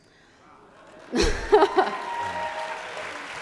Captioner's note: applause